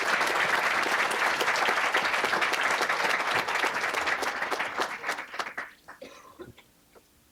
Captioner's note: applause